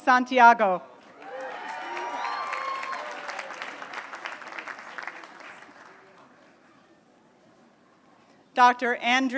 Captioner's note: applause